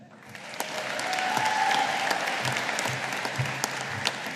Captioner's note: audience applauding